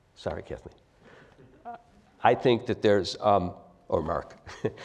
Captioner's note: laugh